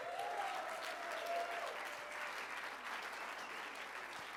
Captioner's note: cheers and applause